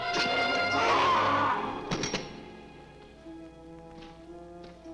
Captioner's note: guard screams